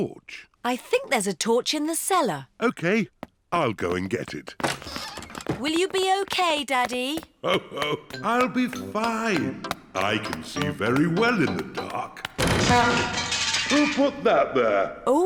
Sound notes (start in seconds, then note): 7.4 laughs; 11.9 crashing